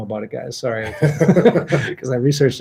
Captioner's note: both laughing